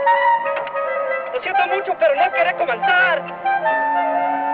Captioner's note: in Spanish